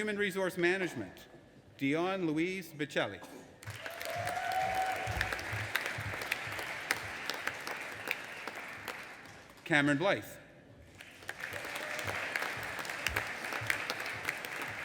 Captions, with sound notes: In Human Resource Management, Dionne Lois Bechelli. (AUDIENCE APPLAUDING AND CHEERING) Cameron Blythe. (AUDIENCE APPLAUDING)